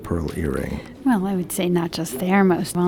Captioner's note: voiceover